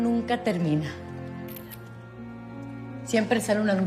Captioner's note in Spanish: Sonido del disparador